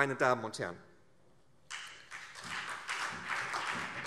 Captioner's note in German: Beifall